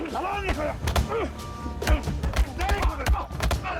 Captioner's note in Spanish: Golpes; Exclamaciones